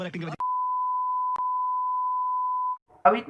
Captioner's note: the long beep